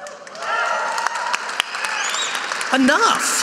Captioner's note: audience cheering